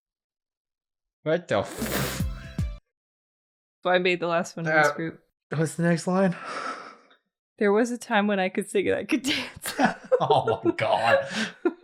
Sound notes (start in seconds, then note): 2.2 synthy beats, accompanied by drums; 5.0 struggle noises